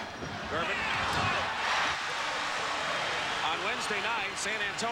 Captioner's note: crowd cheers